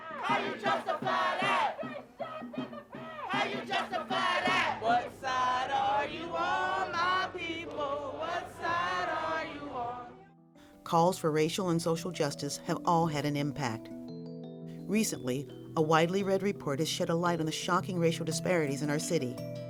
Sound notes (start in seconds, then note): 0.0 chanting; 0.2 crowd; 2.2 chanting; 3.3 crowd